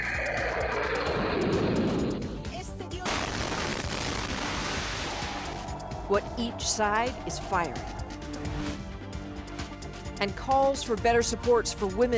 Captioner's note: bombing